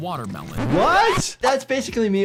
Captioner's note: vinyl record scratching